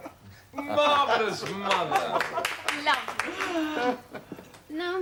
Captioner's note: clapping and laughing; RICHARD chuckles